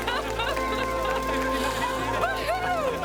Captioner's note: crowd